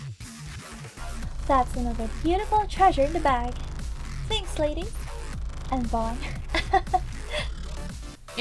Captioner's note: giggle